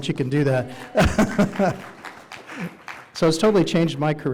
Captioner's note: audience applauding